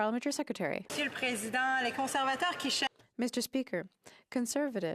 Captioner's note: some Applause